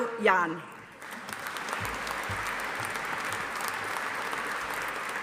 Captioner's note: audience applauding